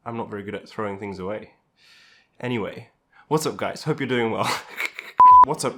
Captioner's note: laughs